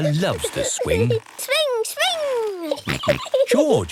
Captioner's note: giggling and snorting